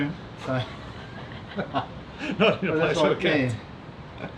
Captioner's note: laughing